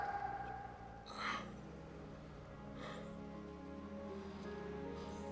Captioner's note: Stephen yelling; Stephen groans; gentle somber music